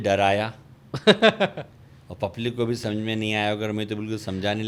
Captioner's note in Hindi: हंसी